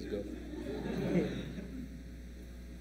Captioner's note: laughter